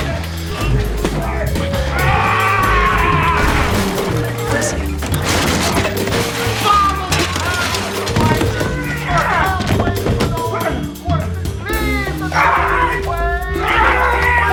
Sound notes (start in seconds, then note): 0.1 glass breaking; 4.4 crashing